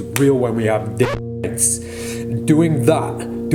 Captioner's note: record scratching